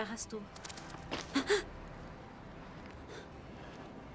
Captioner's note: gasping